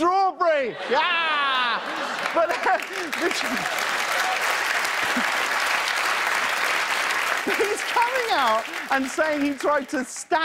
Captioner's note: applause